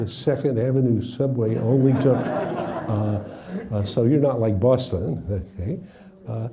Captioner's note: laughing